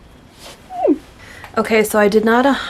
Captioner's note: tiny squeal